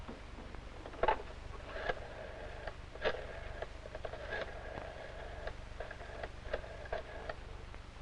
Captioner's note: dialing telephone